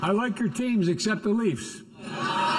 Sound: laughter and applause

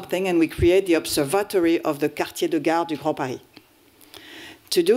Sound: french

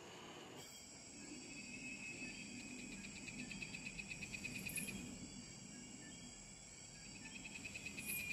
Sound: insects buzzing and chirping

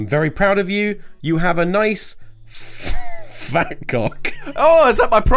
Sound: laughs

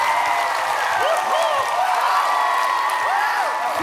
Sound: A loud cheer

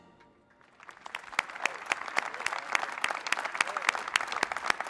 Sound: applause

